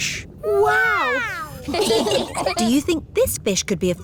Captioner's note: laughing